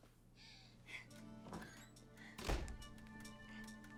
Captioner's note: woman whimpers